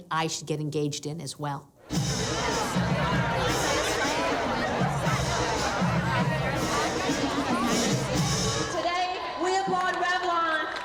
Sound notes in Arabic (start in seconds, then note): 1.8 موسيقى حية; 4.1 ثرثرة في الخلفية